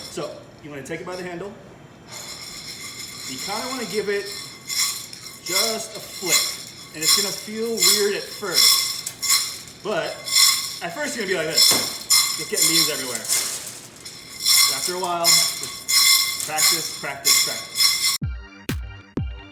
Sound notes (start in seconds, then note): 1.7 beans rattle against metal; 5.0 beans clatter loudly against metal; 7.7 beans clatter loudly against metal; 18.0 upbeat electronic music